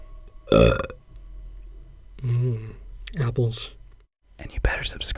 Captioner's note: burps